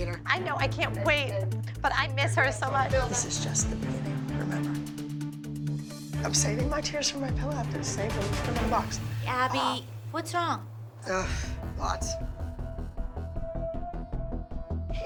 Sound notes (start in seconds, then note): 11.1 Abby sighs; 12.7 tense music playing